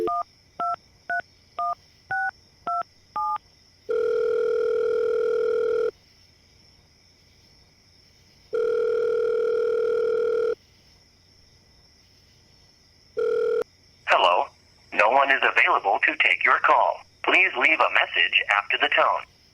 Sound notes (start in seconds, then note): 0.0 sound of number being dialled; 3.5 dial tone